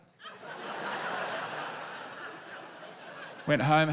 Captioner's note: laughter